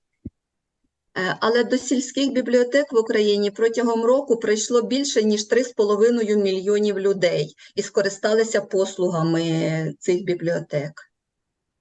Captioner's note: foreign Language